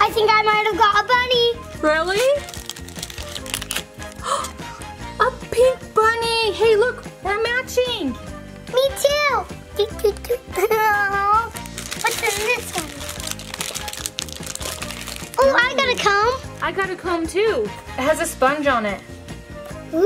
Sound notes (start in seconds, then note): 4.0 gasps; 10.5 laughs